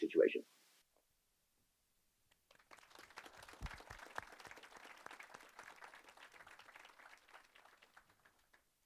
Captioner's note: applause